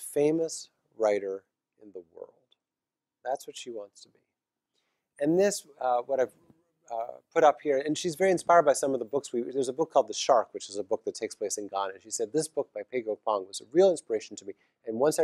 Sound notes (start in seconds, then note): none